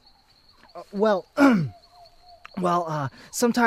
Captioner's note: clearing throat